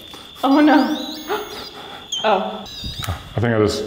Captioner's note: devices whining